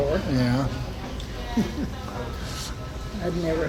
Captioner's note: chuckles